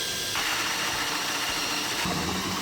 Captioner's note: drilling